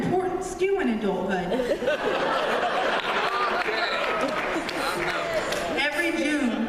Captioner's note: laughter